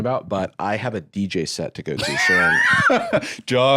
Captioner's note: laughs